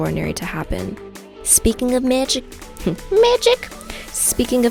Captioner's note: giggles